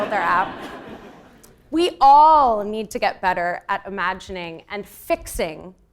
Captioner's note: laugh